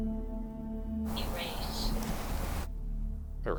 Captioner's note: automated Voice